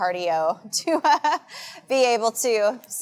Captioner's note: laughing